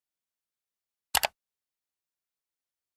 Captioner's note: mouse click sound